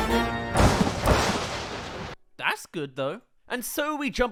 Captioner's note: lightning